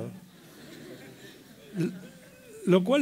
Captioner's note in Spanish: risas